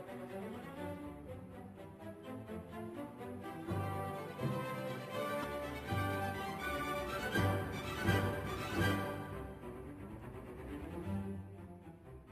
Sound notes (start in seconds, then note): none